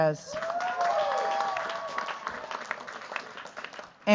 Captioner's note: cheers, applause